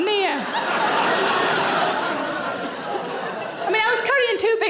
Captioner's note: audience laughs